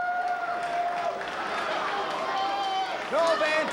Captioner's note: spectators cheering and applauding